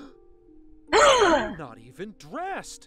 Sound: le gasp

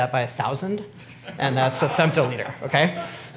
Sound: audience laughs

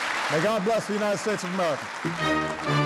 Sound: applause

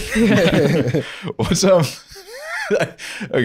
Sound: laughing

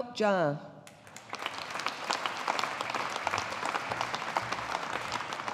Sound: audience applauding

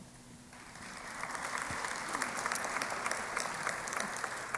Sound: applause

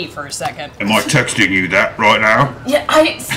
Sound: imitating Grog

